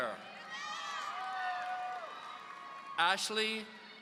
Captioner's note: audience cheering